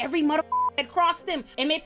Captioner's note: beep